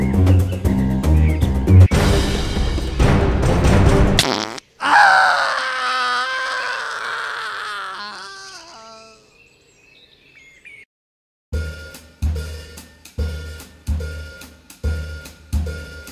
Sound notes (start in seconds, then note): 4.2 poop sound; 4.8 screaming